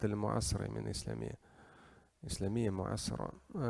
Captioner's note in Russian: говорит на арабском